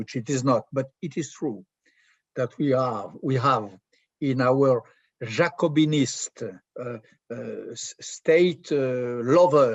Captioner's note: french